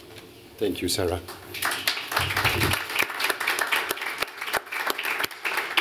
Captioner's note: applause